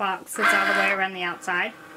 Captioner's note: whirring